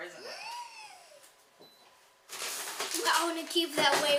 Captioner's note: gasping